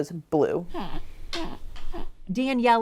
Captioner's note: breathing deeply